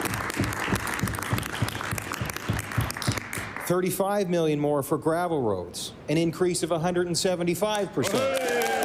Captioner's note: applause